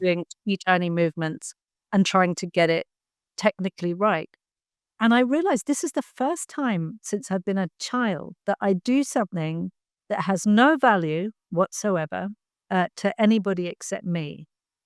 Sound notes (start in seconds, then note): none